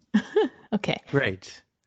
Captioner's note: chuckles